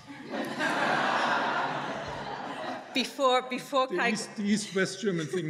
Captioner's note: audience laughing